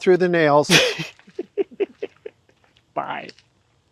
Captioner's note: both laughing